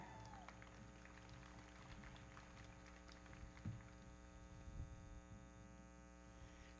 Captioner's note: audience cheering; everybody clapping